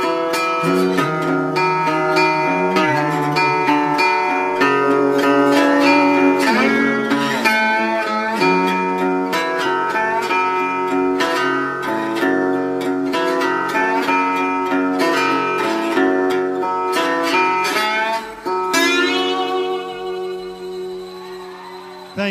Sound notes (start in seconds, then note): 1.6 humming